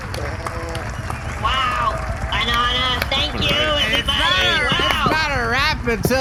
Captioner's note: drunkenly